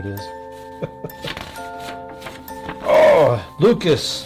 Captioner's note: chuckles